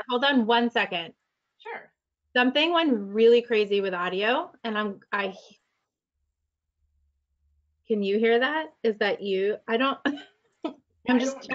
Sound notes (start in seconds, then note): 11.1 laughs